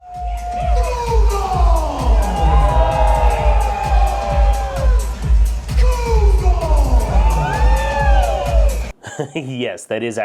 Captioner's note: crowd cheering